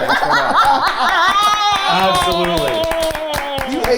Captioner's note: group laughing and clapping